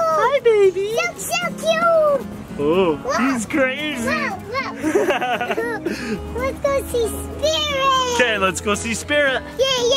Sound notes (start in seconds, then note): 4.6 laughing